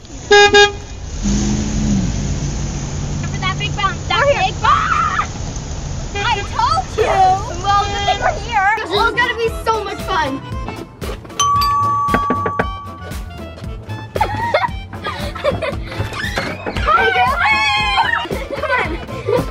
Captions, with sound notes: (Honking) - Watch out for that big bump. - Where? - I told you! - Well, we're here. This is going to be so much fun. (chiming) (knocking) (laughing) - Hi girls! (screaming) Come on.